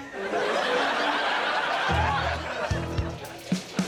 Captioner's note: audience laughs